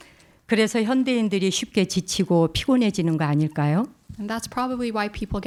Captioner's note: speaking in Korean